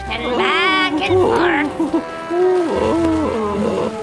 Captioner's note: Finbarr moaning